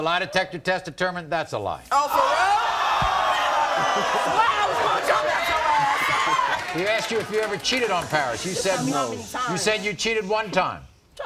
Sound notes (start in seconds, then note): 5.1 audience awes